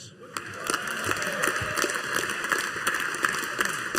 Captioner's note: audience applauding